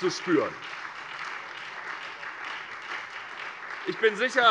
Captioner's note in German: Beifall SPD und Freie Demokraten